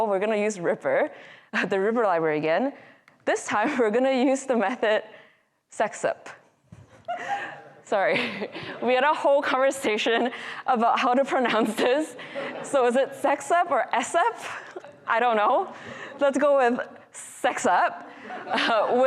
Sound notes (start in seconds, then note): 6.9 woman in audience laughing; 7.0 more audience members laughing; 18.0 audience laughing